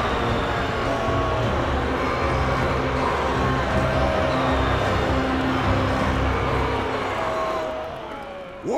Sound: jeering

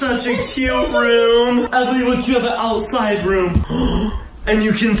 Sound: gasps

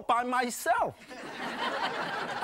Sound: laughing

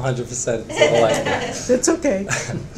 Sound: laughter drowns speech out

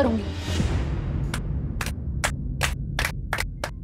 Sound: clapping

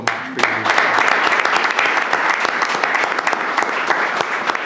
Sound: all clapping

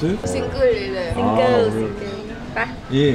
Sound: laughing

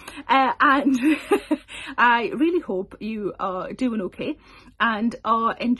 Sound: chuckles

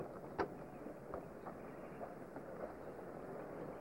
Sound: none

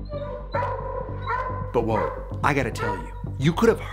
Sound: barking

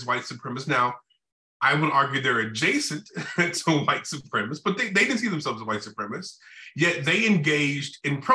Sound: laughter

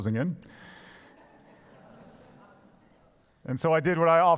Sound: congregation laughs

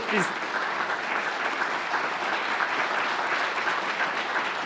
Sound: applause

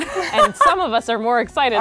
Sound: laughs

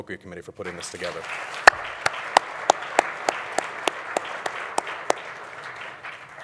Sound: audience applauding

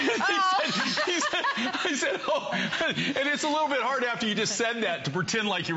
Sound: laughter

